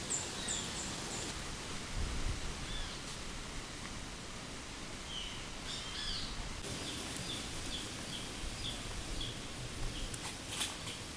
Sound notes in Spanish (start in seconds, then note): 0.0 viento soplando